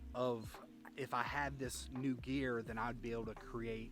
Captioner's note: none